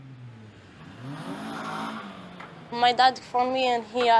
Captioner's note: car zooms past